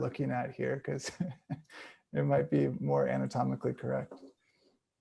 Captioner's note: chuckles